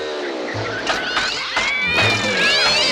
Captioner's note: motor meows and hisses